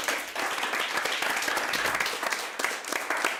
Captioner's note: applause